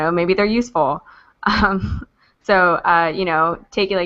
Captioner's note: laughing